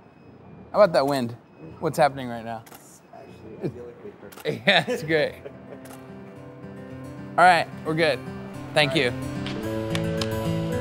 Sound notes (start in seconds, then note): 4.5 laughing; 9.2 somber music